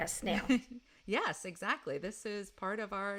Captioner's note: laughs